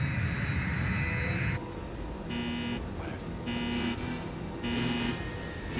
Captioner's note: alarm Buzzing